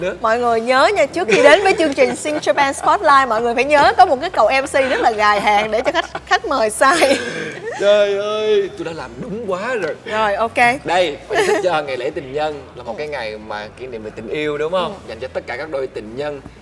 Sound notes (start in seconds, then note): 9.7 laugh